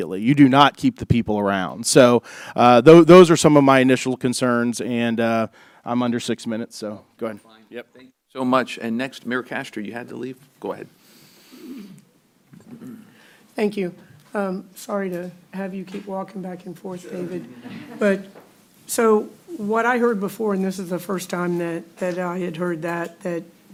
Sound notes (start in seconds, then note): 17.3 laughter